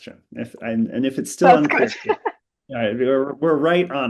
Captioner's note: laughs